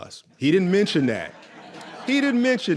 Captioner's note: audience laughs